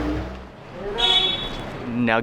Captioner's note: men speaking in foreign language; car horn honks